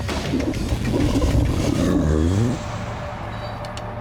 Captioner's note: stomach curdling